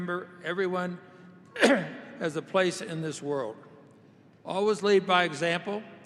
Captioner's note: coughs